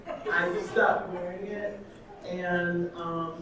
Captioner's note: audience laughing